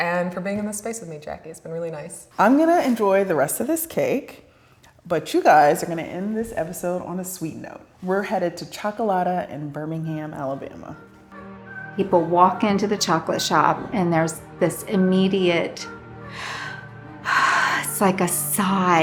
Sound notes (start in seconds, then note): 11.2 gentle calming music; 17.3 sighs